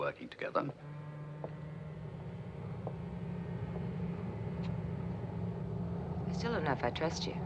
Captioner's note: wind howling faintly, footsteps